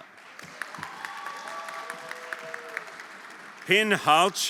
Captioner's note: everyone applauding